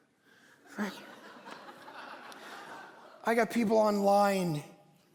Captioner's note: congregation laughing